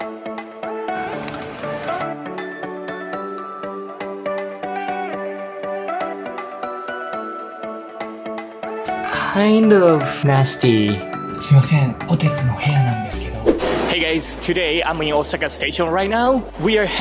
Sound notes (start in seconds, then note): 11.3 speaks in japanese